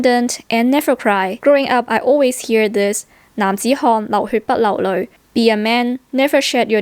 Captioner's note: Cantonese